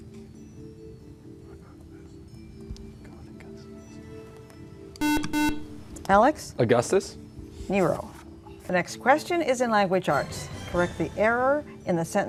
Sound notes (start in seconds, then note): 5.0 buzzer